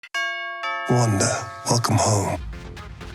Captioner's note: doorbell ringing